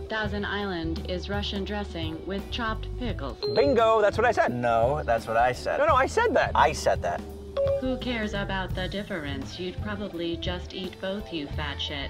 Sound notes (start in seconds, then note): 3.4 phone beep; 7.6 phone beep